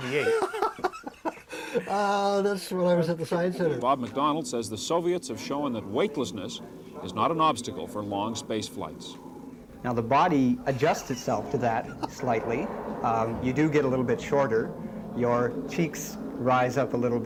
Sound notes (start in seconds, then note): 2.0 laughter